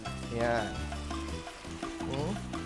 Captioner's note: sizzle